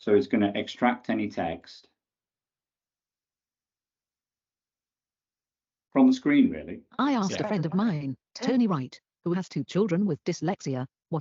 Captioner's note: computer speaks